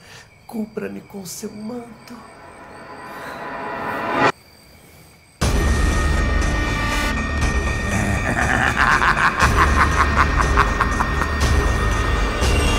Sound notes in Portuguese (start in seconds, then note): 5.4 música de tensão; 7.8 riso maligno